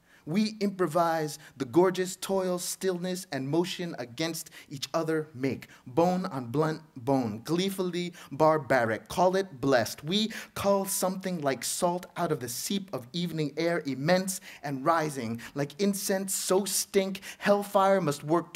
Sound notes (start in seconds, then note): none